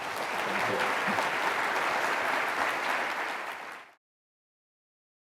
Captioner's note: audience applauding